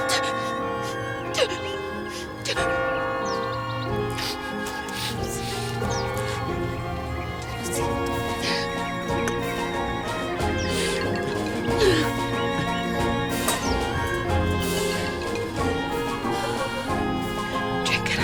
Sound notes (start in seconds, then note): 0.1 bell's ringing; 2.9 crying